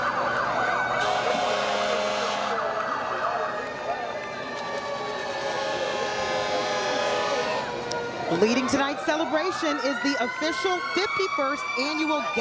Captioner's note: sirens